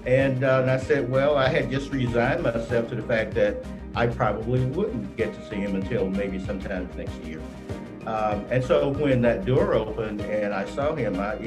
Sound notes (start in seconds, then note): none